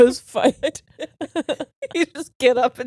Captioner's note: laughing